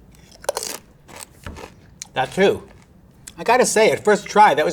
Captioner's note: food crunching